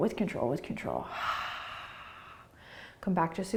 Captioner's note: exhaling